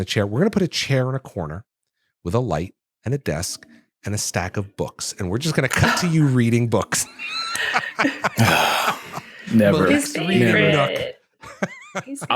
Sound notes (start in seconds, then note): 6.8 laughs; 7.5 sighs heavily